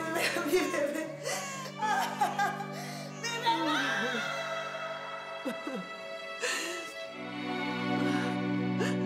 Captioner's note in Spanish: llanto de la bebé; llanto